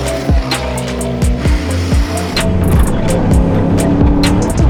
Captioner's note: upbeat bright music; engine revving